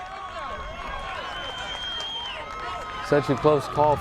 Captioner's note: crowd cheering